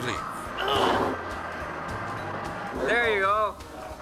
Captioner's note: man grunts